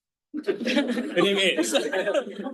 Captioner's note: all laughing